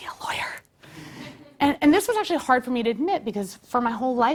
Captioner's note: laugh